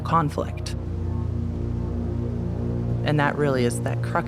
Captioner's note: river water flowing